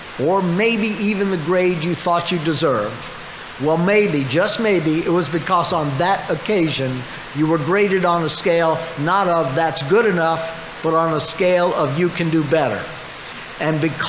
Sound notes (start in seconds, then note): none